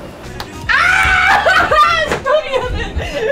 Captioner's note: screaming and laughter